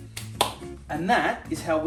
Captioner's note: claps